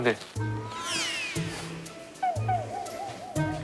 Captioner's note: whoosh